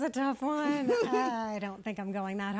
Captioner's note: chuckling